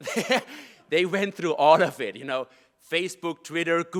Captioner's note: laugh